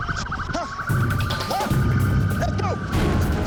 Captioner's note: sirens wailing; shouts